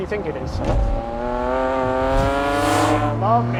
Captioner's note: engine roaring